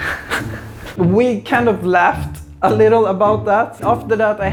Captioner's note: more tehehe